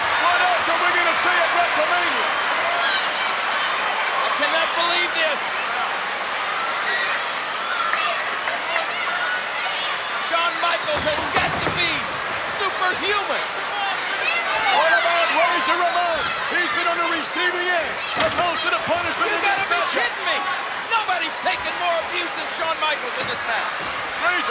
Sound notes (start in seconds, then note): 2.7 crowd shouting; 6.0 crowd chattering